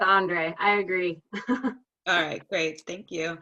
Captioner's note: laughter